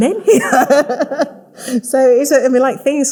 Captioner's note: all laughing